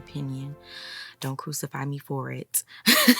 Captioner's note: giggling